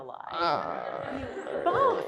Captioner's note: audience laughs